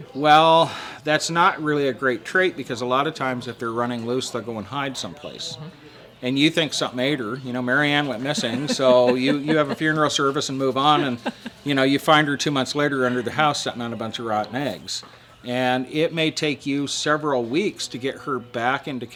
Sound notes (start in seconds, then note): 8.1 laughing